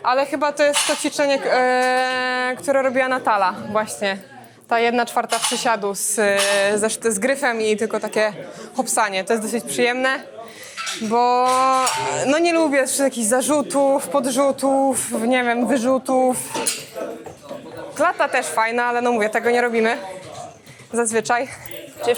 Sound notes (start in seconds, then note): 11.7 shout